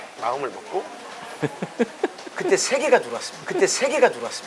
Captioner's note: laugh